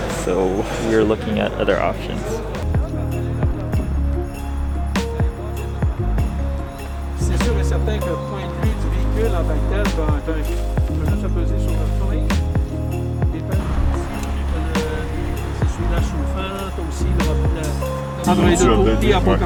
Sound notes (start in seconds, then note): 3.3 melodious music; 7.2 speaking in foreign language